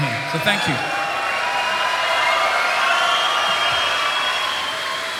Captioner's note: audience cheers